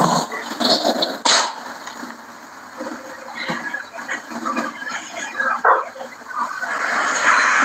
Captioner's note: laughs